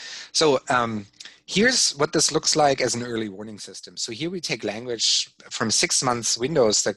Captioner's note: none